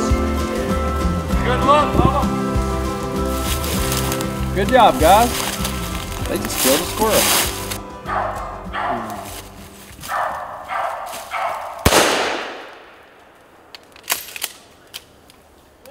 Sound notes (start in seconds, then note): 10.0 dog barking; 11.8 gunshot